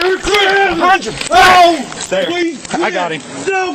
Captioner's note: screaming